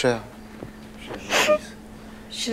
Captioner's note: Shreya sobs